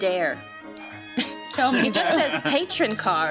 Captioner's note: chuckles